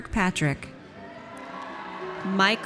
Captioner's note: audience cheers